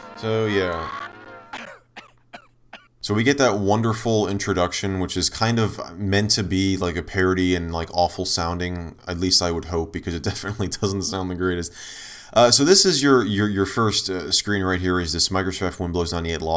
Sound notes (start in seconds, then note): 0.1 coughing